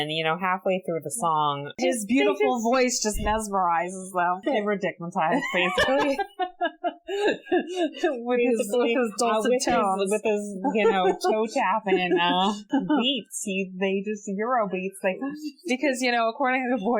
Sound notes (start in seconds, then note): 5.3 laughs